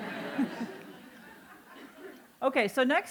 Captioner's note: laughter